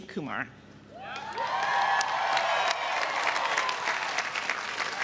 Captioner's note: audience cheering